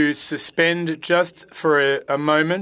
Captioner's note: speaking French